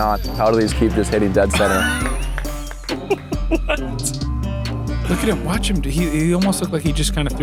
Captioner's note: laughs